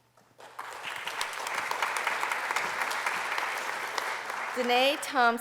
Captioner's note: applause